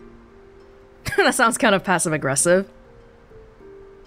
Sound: chuckles

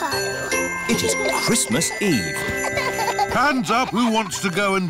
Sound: both giggling

